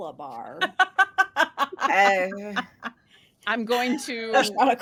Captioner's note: laughing